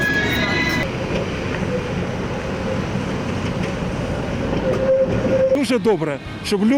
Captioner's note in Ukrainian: звук трамвая